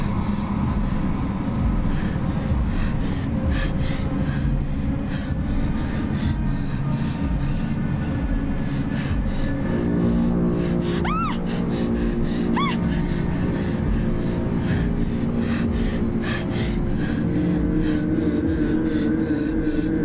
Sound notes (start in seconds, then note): 11.0 gritos; 11.5 ominosa de la música; 15.0 respira fuertemente